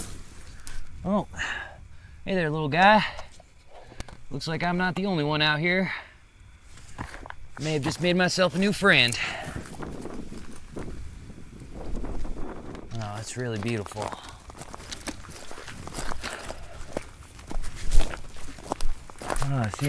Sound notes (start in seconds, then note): 7.0 footsteps crunching; 9.8 wind rustling; 14.5 hiking gear rattling; 14.8 footsteps crunching